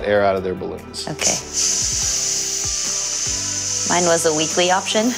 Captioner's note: air hissing